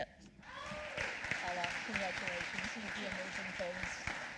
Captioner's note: applause